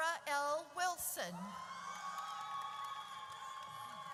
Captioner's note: audience cheers